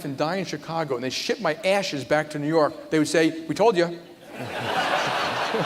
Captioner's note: laughter